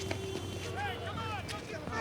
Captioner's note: horns honking, drivers shouting